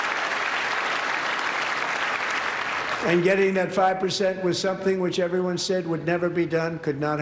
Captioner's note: applause